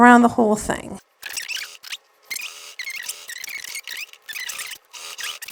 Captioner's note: video fast-forward trilling